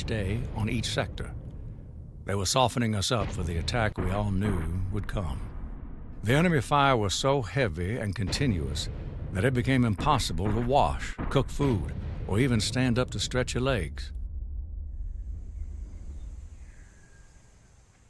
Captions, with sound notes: for a part of each day on each sector. They were softening us up for the attack we all knew would come. The enemy fire was so heavy and continuous that it became impossible to wash, cook food, or even stand up to stretch your legs. (birds chirping)